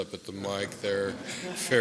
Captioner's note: laughter